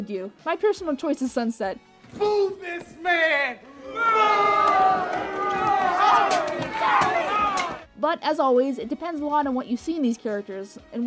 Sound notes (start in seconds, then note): 3.7 assorted booing noises